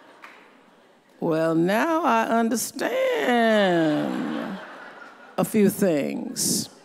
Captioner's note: audience laughs